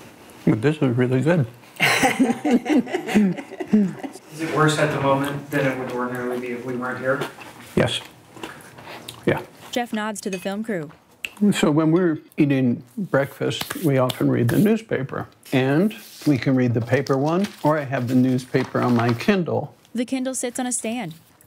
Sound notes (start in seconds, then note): 1.8 both laugh